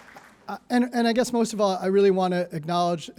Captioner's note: applause